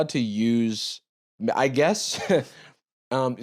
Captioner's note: chuckles